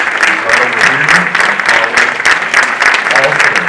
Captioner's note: audience applauding